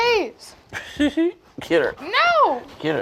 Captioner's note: laughs